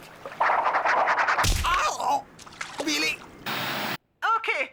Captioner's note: cody grunts